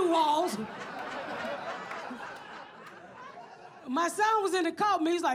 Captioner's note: audience laughs